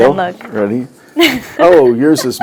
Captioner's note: laughs